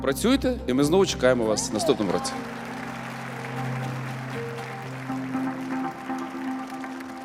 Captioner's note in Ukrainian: оплески